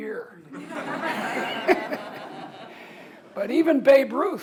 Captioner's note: audience laughs